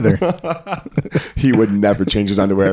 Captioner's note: laughing